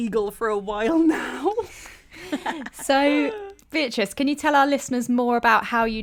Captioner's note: both laugh awkwardly